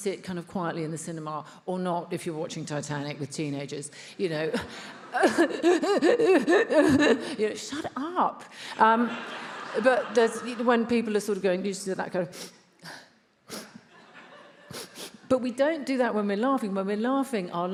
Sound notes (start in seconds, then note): 4.6 Emma sobbing; 8.8 attendees laughs